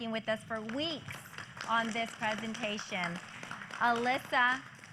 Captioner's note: applause